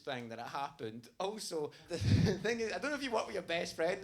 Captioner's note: laughs